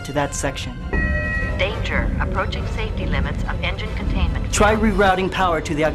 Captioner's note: alarm